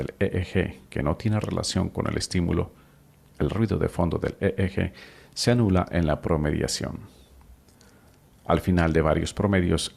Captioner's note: the EEG background noise